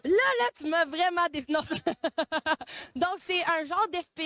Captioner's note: laughs